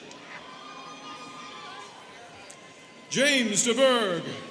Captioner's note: students cheering